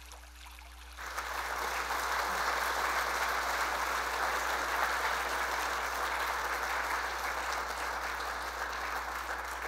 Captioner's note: applause